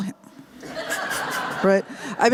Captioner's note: laughter